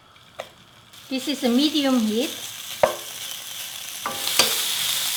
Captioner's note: pan sizzling